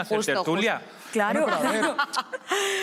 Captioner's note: laughter